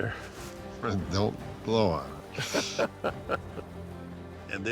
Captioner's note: laughter